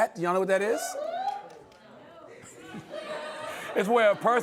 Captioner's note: whooping